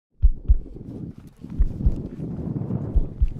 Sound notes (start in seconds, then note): 0.4 heartbeats